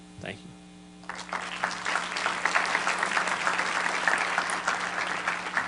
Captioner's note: applause